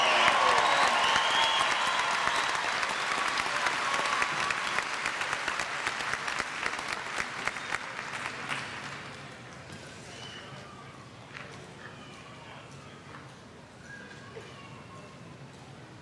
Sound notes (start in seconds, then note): 0.0 cheers; 4.2 applause